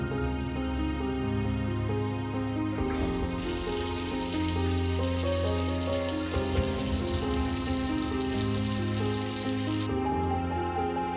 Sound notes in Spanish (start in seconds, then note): 2.8 Ruido del agua al caer